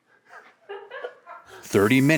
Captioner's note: laughs